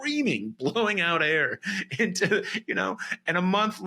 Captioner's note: laughs